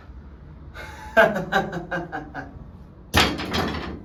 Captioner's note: he chuckles